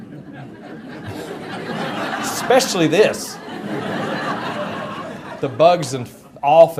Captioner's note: audience laughter